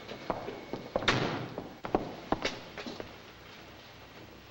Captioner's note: car door slams